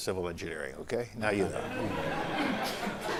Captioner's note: laughter